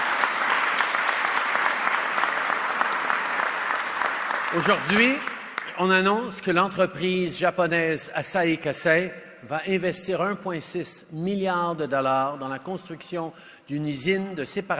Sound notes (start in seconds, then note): 3.8 applause; 3.8 speaks French